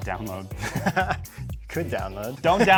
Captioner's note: laughing